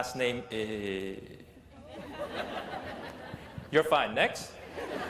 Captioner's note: laughter